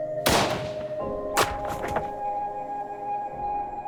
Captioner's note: gunshot